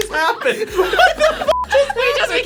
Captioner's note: beep